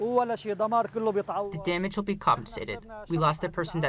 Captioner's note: through translator